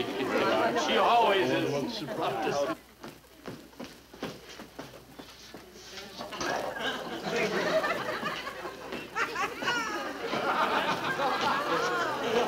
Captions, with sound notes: - She always is- - A little surprise. (audience laughing)